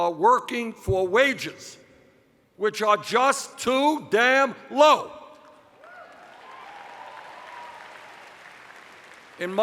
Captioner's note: cheers